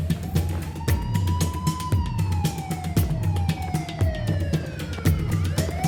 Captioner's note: siren wails; tense percussive music